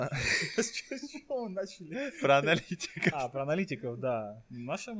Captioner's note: laughing